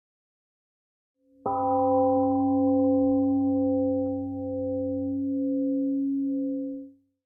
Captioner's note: temple gong rings and fades